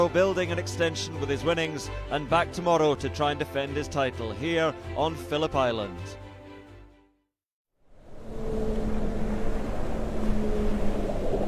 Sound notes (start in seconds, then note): 8.3 waves crash